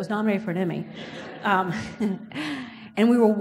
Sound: audience laughs

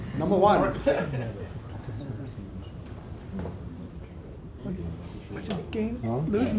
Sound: audience talks among themselves

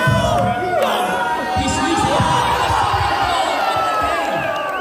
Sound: crowd cheering

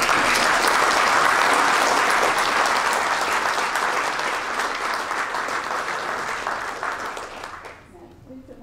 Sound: applaus

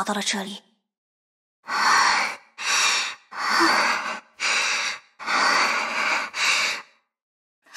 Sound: gasping

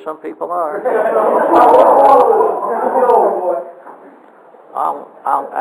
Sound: audience laughter

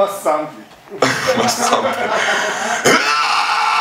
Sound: laughing

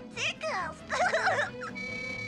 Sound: laughs

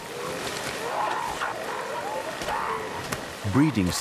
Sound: seals barking

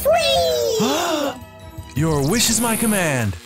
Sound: Genie gasps with surprise

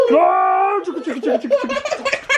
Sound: grunting; laughing

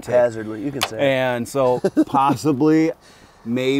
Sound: laughs

